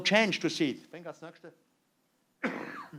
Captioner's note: non-english speech